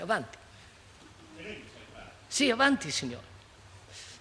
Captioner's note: Italian